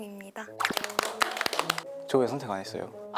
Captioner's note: clapping to remove the awkwardness